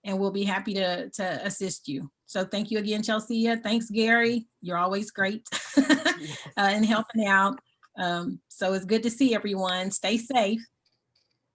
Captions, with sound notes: and we'll be happy to assist you. So thank you again, Chelsea. Thanks Gary, you're always great (laughs) in helping out. So it's good to see everyone, stay safe.